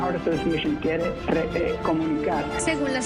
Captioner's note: reporter speaking in a foreign language